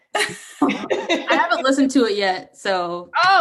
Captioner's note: laughs